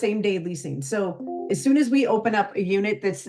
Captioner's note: notification dings